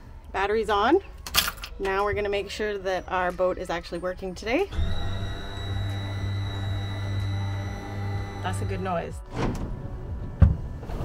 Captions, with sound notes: Batteries on. Now we're going to make sure that our boat is actually working today. [Boat motor starts] That's a good noise.